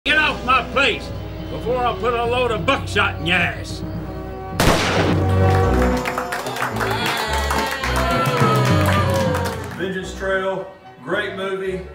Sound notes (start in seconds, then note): 4.6 gunshot; 5.2 cheering and applause; 7.7 upbeat orchestral music